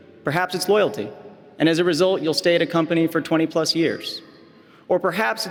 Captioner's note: none